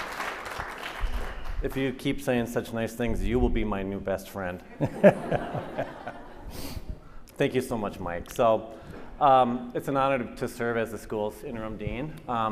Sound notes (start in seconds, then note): 4.8 audience laughing